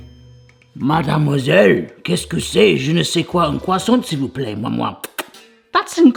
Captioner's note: speaking in foreign language